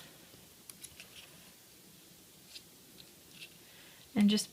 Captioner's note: paper shuffling